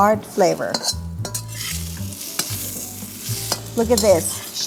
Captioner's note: sauteing